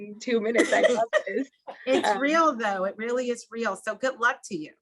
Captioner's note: laugh